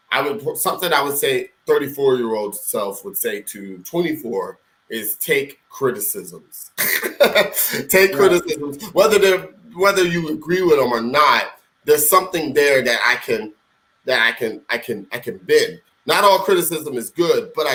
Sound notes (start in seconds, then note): 6.8 laughing